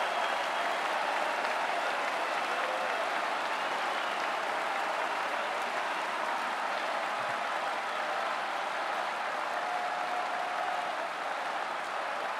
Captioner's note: cheering and Applause